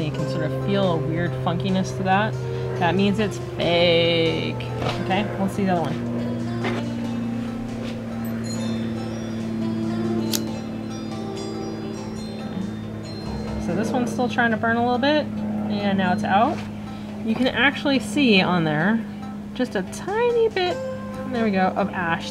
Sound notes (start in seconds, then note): 8.2 sounds of airplane and wind chimes in background